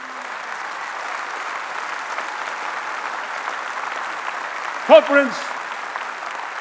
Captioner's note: applause